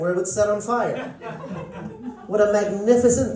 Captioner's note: laughter